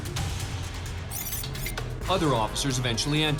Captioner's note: rewind sounds